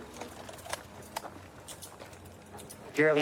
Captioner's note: handcuffs clicking